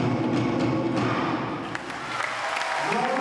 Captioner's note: crowd cheering